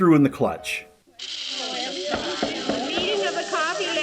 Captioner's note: hissing, chattering, gaveling